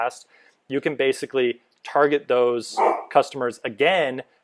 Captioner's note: bark